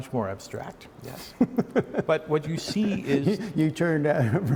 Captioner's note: laughter